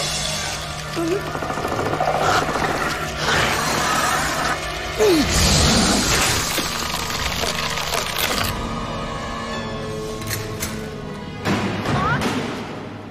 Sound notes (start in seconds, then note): 1.0 centipede growls; 4.8 spits; 6.1 crushing sound; 11.2 metal banging